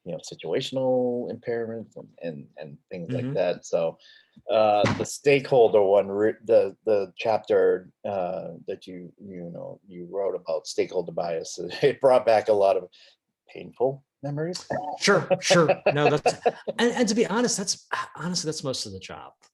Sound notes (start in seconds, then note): 15.0 laughs